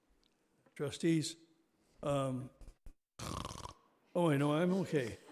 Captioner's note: makes snoring sound